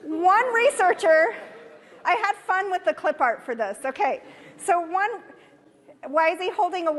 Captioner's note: audience laughter